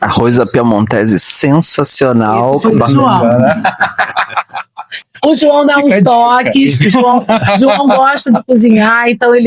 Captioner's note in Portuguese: risadas